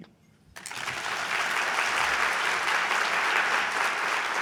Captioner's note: audience applauding